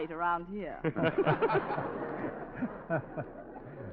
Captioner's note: audience laughing